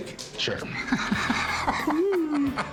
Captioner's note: laughter